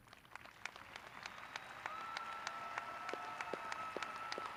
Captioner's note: graduates cheering